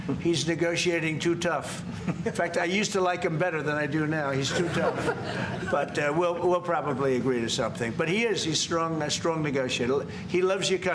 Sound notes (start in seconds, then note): 4.4 laughter